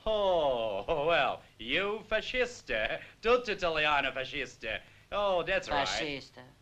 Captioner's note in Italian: con accento americano